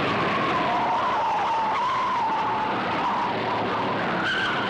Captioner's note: tires screeching